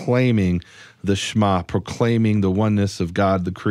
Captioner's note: speaks in foreign language